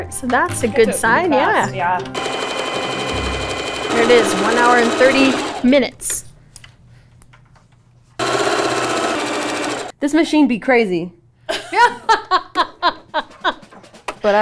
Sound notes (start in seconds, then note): 2.1 sewing machine running; 8.2 sewing machine jams; 11.6 laughs